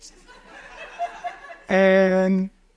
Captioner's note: audience chuckles